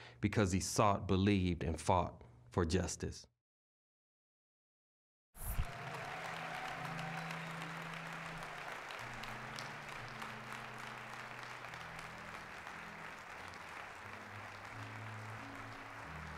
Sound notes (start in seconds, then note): 5.4 applause